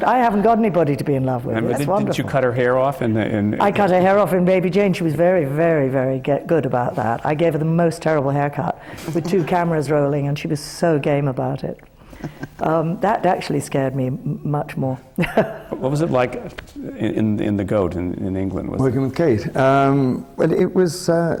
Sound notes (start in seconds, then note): 12.1 laughs; 15.1 laughs